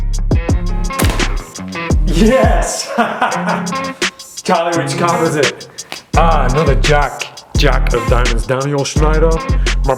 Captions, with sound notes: (upbeat music) Yes! (laughs) Charlie, which card was it? Another Jack, Jack of diamonds. Daniel Schneider.